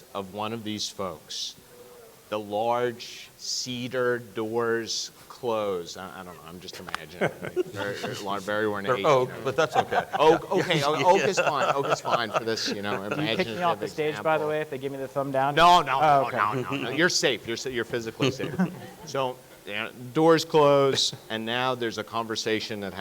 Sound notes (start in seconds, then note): 7.5 judges laughing; 11.6 laughing